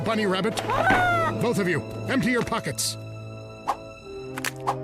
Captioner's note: Huggy groans